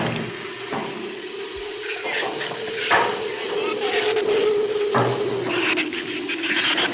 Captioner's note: wind howls; flame hisses